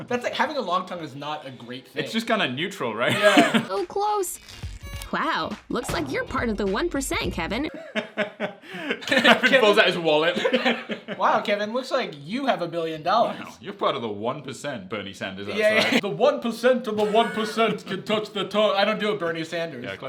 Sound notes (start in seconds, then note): 3.1 laughs; 7.7 laughs